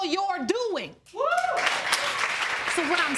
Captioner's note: audience cheering